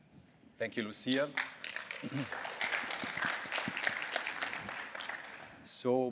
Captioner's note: applause